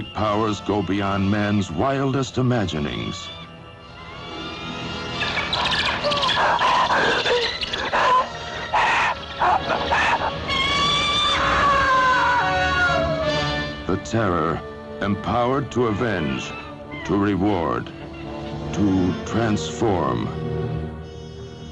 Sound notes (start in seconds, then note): 6.2 panting; 11.9 screams